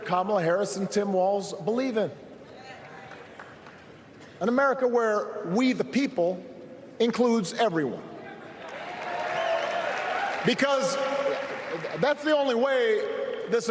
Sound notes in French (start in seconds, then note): 6.7 applause